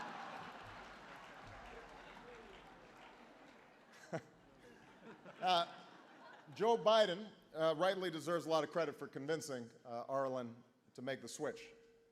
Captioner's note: laughter